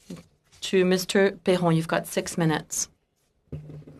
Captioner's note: speaking French